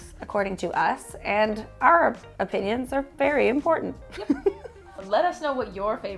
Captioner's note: laughs